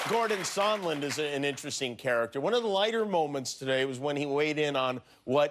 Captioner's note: cheers and applause